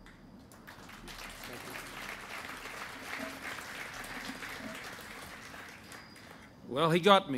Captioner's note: applause